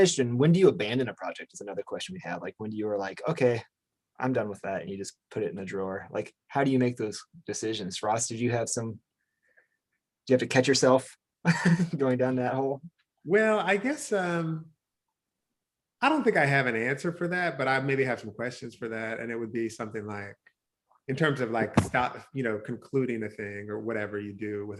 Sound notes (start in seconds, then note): 11.4 chuckles